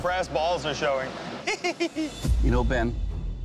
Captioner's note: laughter